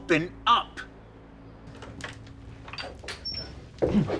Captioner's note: door hinges creak